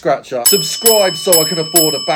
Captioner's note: bell dinging